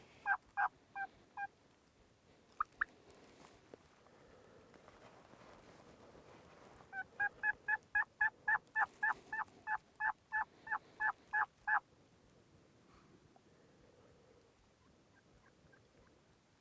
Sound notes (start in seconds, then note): 6.9 turkey calling